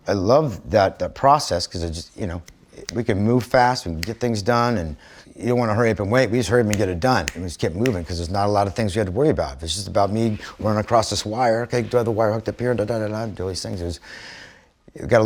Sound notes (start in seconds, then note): none